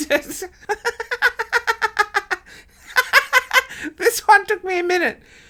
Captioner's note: laughing